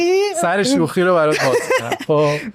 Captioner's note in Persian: خنده